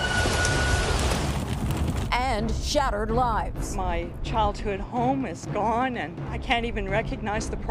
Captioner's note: sirens